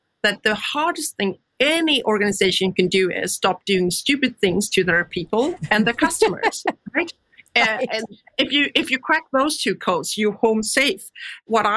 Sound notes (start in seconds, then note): 5.4 laughs